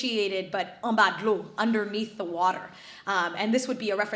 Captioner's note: speaks foreign language